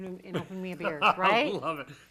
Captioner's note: laughs